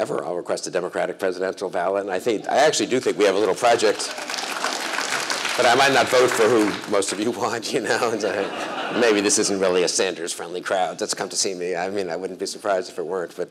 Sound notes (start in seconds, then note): 3.3 applause